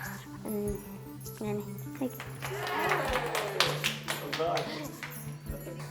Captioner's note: applause